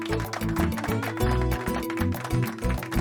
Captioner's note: class applauding